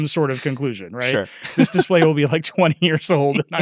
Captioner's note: laughs